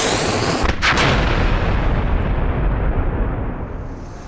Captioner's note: loud explosion